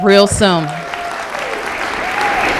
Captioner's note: applause